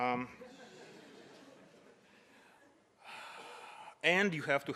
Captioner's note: audience laughs